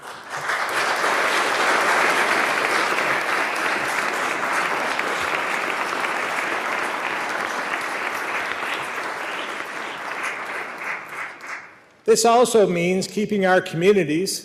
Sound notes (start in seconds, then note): 3.6 applause